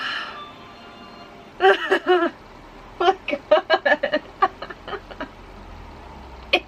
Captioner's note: laughing